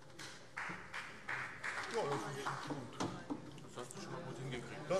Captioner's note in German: Vereinzelter Beifall